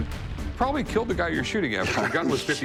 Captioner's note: laughs